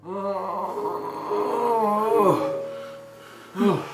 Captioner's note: Larry groaning